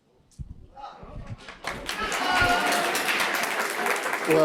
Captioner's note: audience applause